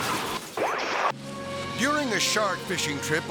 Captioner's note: car skidding; glass shattering; screen static